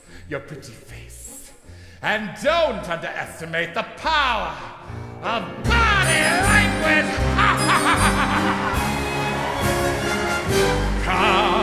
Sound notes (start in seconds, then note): 9.0 cackles